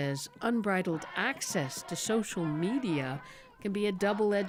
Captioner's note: shouting